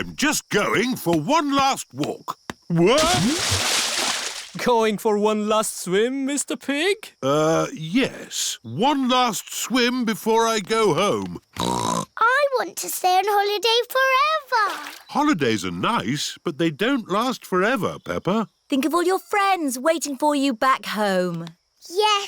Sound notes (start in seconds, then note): 11.6 snorts